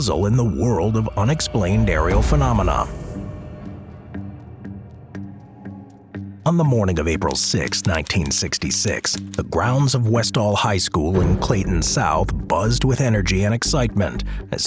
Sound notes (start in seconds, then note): 3.3 tense music continues; 7.2 typewriter clicking